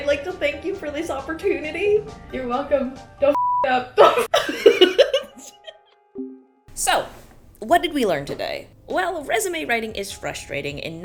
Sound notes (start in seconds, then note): 4.0 girls laughing